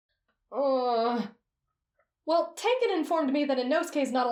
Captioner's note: groan